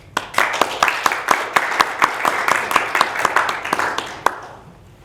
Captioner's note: audience applauds